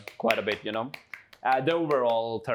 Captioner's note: continues clapping